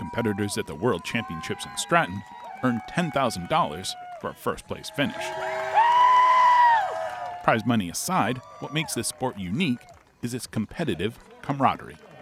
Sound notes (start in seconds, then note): 4.7 athlete shouting; 6.0 crowd cheering